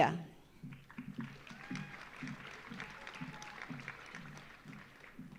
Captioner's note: audience applauding